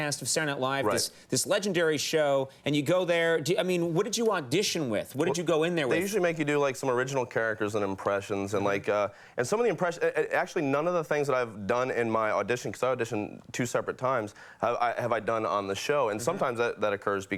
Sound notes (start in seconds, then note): none